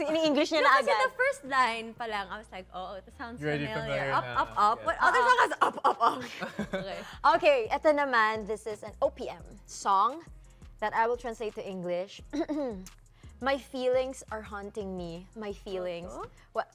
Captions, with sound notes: - She already put it in English. - Right at the first line, I was like, "Oh, this sounds familiar." "Up, up, up"? What other song has that line? [CHUCKLES] Alright, the next one's an OPM song that I will translate into English. [CLEARS THROAT] "My feelings are haunting me - My feelings..." - Multo?